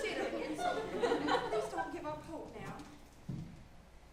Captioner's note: audience laughs